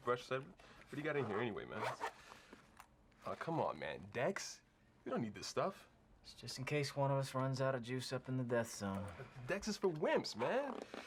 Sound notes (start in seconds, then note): none